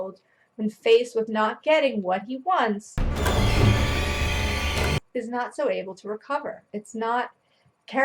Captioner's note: loud scary noise